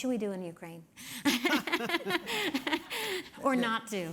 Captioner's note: laughing